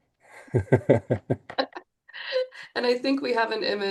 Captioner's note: group laughs